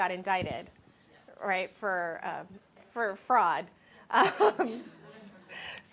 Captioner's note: laughs